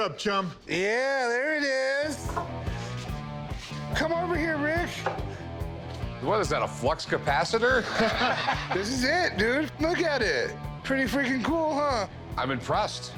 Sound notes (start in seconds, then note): 7.7 laughter